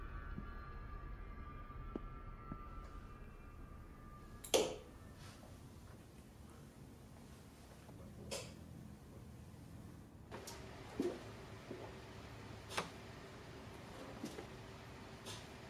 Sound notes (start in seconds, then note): 4.4 light switch clicks; 8.0 light switch clicks